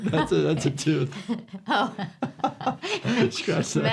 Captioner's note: doctor laughs